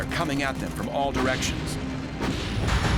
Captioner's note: ship firing